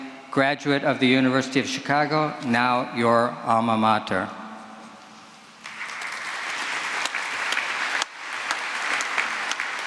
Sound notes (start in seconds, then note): 5.6 applause